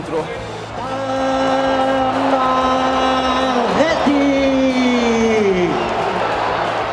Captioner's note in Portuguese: torcida celebrando; sons da torcida